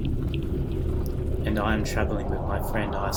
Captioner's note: gradually louder whooshing